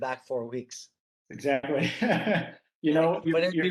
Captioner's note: laughing